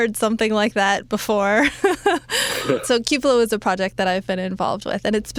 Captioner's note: laughs